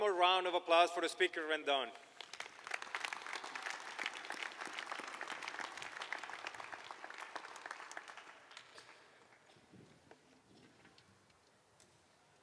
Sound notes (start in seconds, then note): 3.9 applause